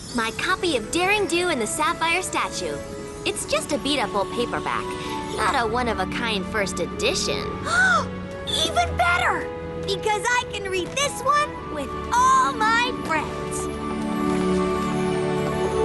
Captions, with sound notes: My copy of Daring Do and the Sapphire Statue. It's just a beat up old paperback, not a one-of-a-kind first edition. (gasp) Even better! Because I can read this one with all my friends.